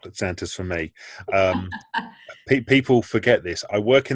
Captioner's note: laughing